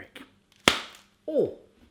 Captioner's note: smacking